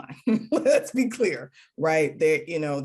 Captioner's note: laughing